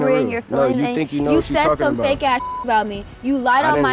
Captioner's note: beep